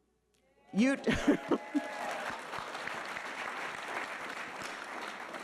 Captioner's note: audience applauding